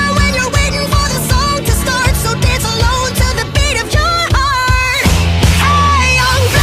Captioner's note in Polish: Drganie